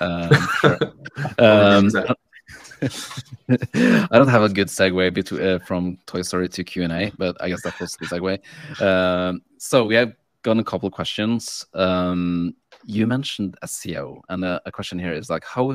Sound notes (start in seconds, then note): 0.0 laughing